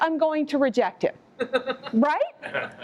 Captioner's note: laughter